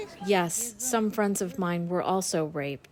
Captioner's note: through translator